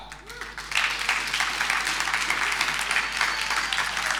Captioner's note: audience applauding